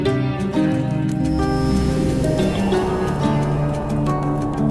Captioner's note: wind whooshing